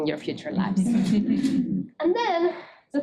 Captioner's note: students laughing